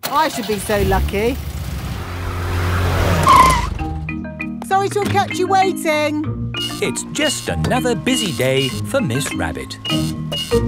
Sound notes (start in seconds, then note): 0.0 car engine starts; 3.1 brakes squeal